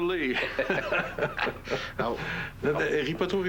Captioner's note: Rires